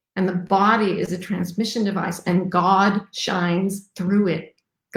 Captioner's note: none